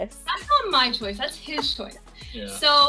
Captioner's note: laughing